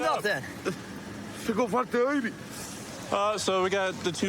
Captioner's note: speaking spanish